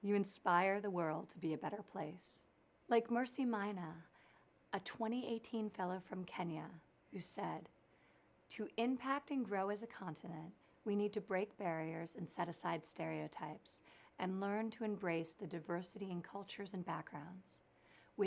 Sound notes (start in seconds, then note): none